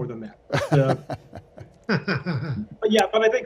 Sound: laughs

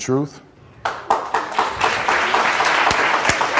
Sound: applause

